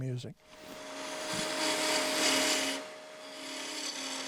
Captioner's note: lathe whirring